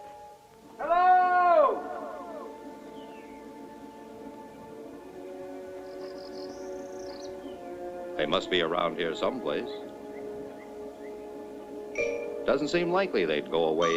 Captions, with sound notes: - Hello? (echoing) They must be around here some place. Doesn't seem likely they'd go away